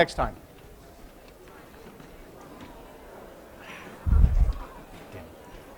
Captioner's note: chatter